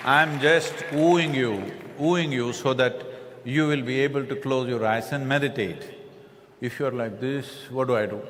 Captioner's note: laughter/Applause